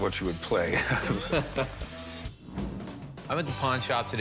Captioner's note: both laugh